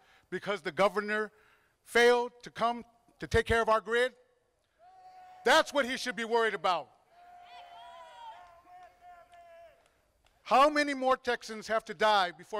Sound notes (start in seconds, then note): 7.4 crowd applauding